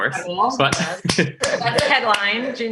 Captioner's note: claps